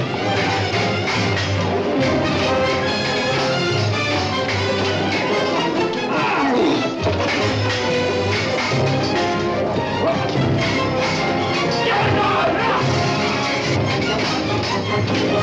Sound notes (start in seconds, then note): 11.7 ruffians shouting